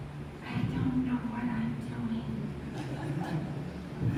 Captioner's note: whispering; laughter